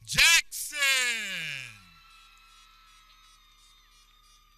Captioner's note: people cheering